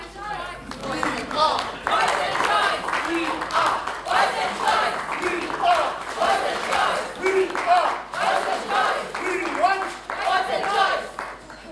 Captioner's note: applause